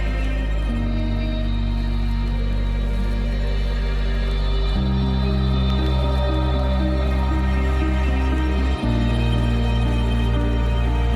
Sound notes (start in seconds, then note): 3.0 stirring music continues; 3.0 water lapping continues